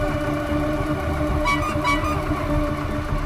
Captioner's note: Horn blares